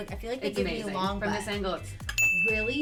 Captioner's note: clicks tongue